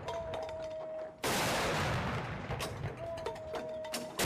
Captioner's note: gunshots